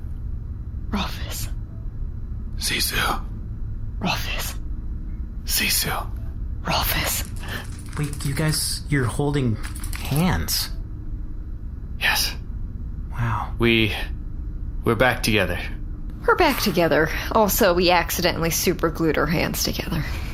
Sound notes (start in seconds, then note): 3.1 dreamily; 6.9 Nermut skitters in